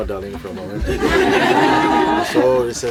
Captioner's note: more laughter